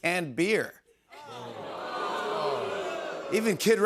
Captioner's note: audience boos